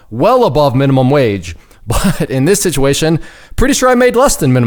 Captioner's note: laughing